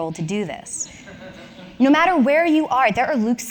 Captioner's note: laughs